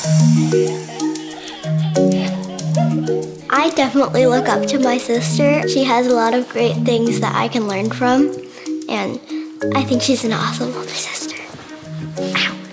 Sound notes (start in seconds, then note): 0.2 bright music; 2.6 laughter